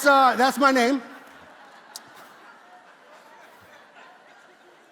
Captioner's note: congregation laughs